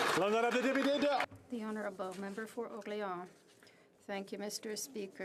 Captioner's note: applause